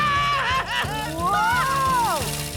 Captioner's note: air hisses